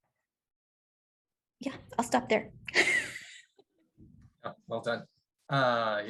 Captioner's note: laughter